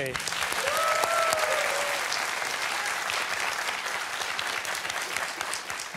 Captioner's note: cheers and applause